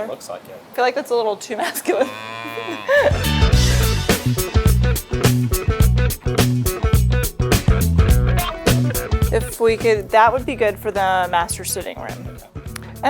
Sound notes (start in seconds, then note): 2.0 cow mooing; 3.1 feel-good rhythmic music continues